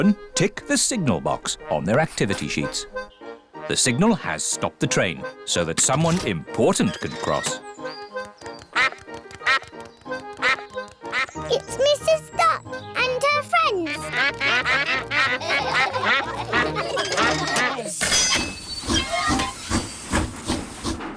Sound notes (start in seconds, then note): 8.9 quacks; 13.8 laughter; 14.0 all quack; 19.1 train chugs